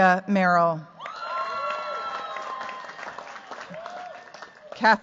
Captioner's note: cheers, applause